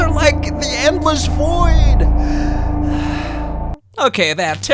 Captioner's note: exhales